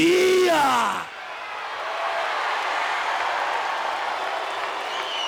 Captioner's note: audience cheers